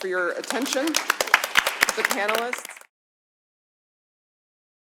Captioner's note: applause